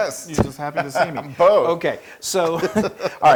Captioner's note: laugh